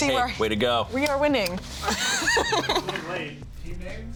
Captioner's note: laughs